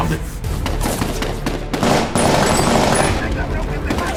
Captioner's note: gun firing